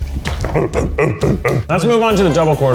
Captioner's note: chanting